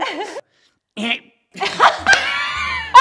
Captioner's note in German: Er hustet